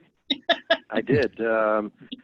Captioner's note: laughing